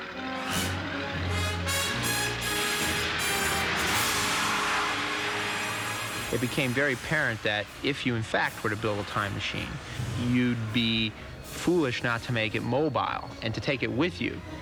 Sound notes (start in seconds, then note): 3.9 tires squealing